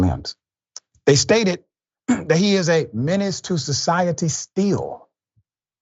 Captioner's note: cough